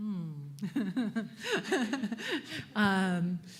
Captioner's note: laughs